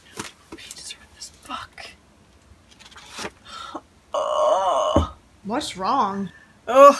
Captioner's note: heavier sigh; sigh; groan